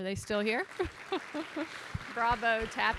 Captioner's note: audience applauding